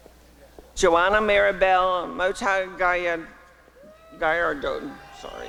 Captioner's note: applause and cheering